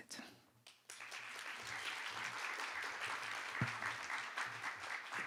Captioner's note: applause